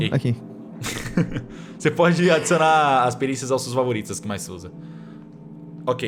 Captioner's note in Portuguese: Risos